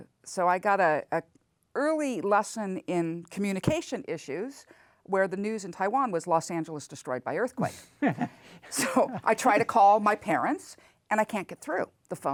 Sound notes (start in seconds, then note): 8.0 laughs